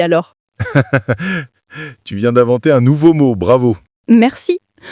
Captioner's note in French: rire